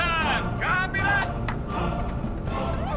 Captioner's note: claps